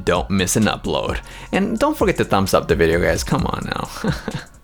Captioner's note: chuckles